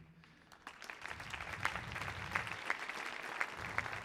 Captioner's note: audience applauding